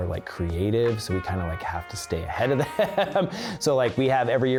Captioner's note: laughs